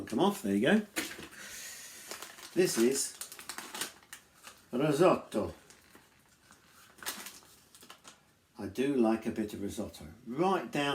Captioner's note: italian accent